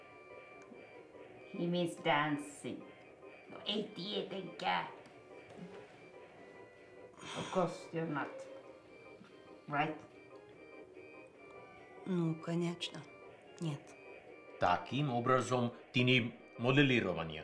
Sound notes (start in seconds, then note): 12.3 speaking in a foreign language